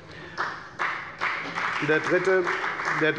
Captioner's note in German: Beifall bei der FDP